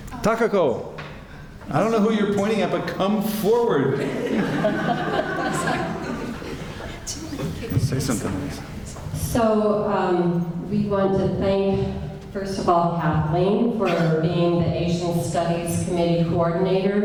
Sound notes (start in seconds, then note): 3.9 laughter